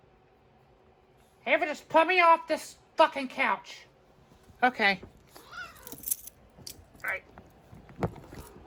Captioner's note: Caprice meows